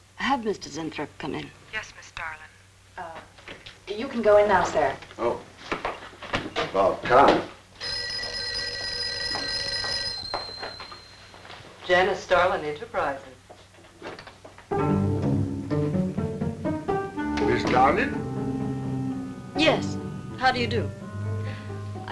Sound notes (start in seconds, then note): 7.8 phone ringing; 14.8 mysterious music